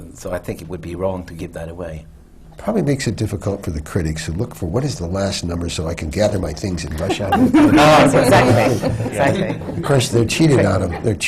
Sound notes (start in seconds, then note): 6.9 laughter